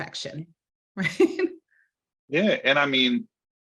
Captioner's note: laughing